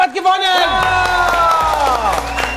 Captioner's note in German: Jubel, Applaus